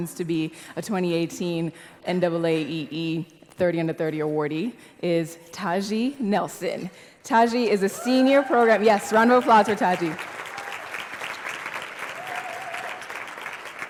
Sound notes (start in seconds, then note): 7.9 yell; 10.4 applause